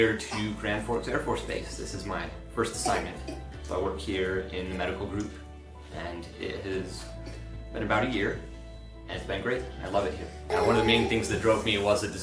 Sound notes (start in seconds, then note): 2.8 child coughing; 10.5 child grunting